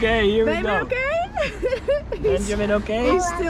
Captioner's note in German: lacht